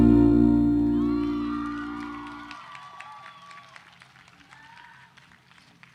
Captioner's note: audience applause